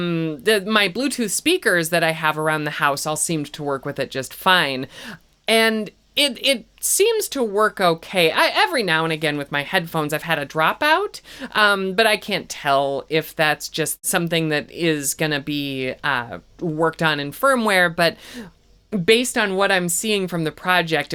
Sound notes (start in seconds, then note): 7.4 stammers